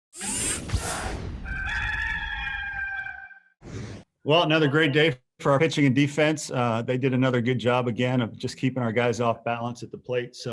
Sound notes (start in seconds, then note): 1.4 cock crowing